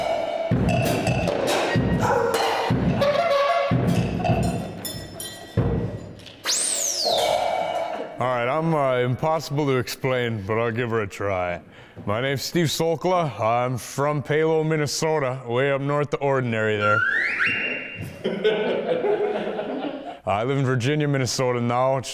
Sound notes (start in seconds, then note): 0.0 percussive beats; 2.4 horn blows; 6.4 whistle blows; 16.8 whistle blows; 17.4 crowd laughing